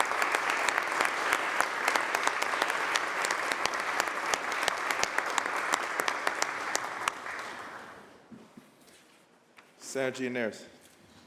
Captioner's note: applause